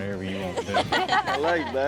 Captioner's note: everybody laughs